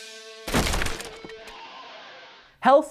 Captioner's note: crashing